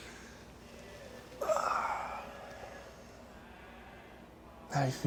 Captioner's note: none